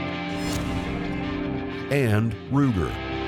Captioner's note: slicing